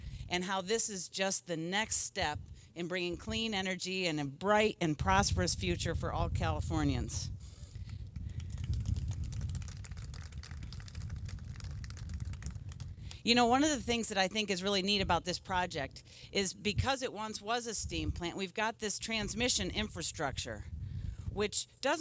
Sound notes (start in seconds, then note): 8.3 applause